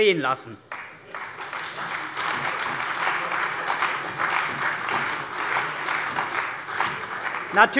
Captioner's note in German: Beifall bei der CDU und dem BÜNDNIS 90/DIE GRÜNEN